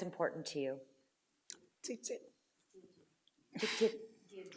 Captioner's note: laughing